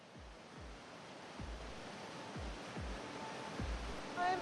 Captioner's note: rushing water